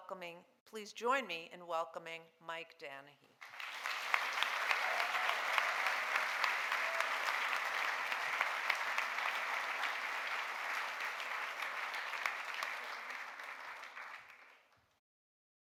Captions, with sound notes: Please join me in welcoming Mike Danahy. (audience applauding)